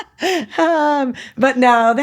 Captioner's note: laughs